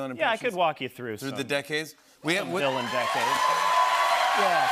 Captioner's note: cheers and applause